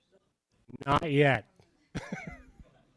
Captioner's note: chuckles